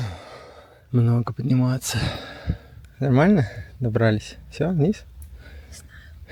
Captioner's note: sighs; heavy breathing; snorts